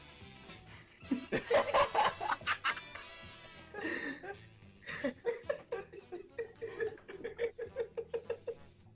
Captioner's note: laughter